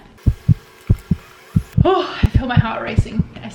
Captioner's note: heart beat pulses